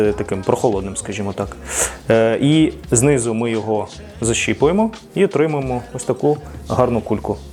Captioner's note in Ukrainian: сопіння